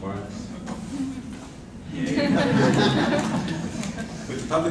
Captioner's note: laughter and applause